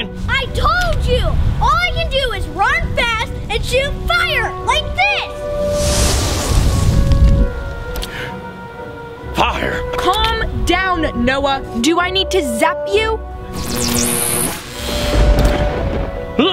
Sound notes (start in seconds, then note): 5.4 fire crackles loudly; 8.0 gasps softly; 13.5 electricity crackles